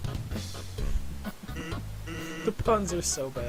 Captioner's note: chuckling